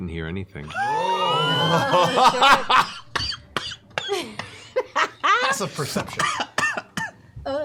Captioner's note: laughter